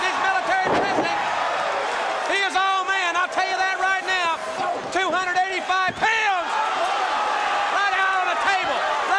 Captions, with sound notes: MILITARY PRESS SLAM. >> [CROWD CHEERING] >> HE IS ALL MAN, I'LL YOU THAT RIGHT NOW, 285 POUNDS... >> [CROWD CHEERING] >> ...RIGHT OUT ON THE TABLE,